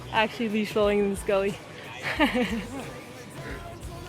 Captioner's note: laughs